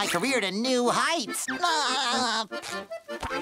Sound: laughing

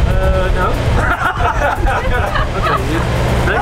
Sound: laughs

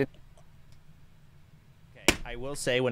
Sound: silent; knee slap

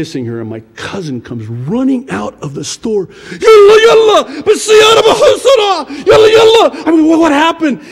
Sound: yells in Arabic

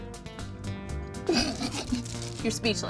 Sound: laughing

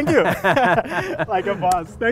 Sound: laughing

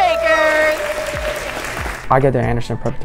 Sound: crowd cheering

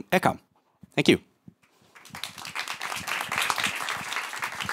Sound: applause

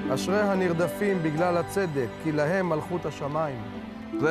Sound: speaking hebrew

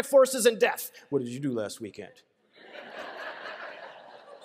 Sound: laughter

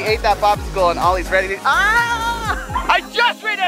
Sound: yells

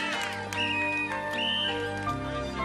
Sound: David and Ruth applauding; whistle blowing

